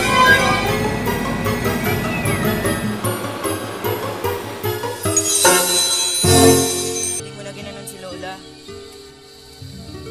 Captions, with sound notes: [bell ringing] I hope you didn't treat Grandma that way!